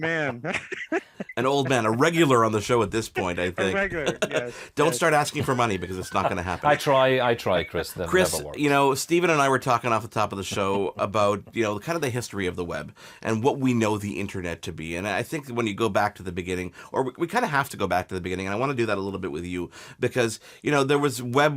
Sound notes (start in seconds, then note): 2.2 laughs; 5.1 chuckles